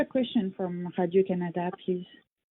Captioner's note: speaking foreign language